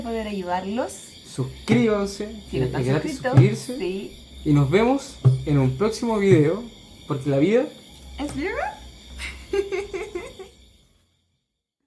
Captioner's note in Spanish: risas